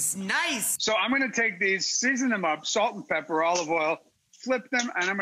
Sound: none

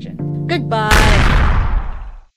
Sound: explosion

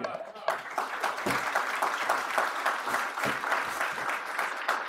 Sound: audience applauding

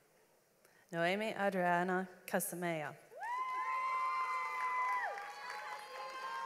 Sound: audience applauds

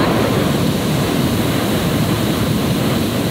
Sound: loud engine roaring

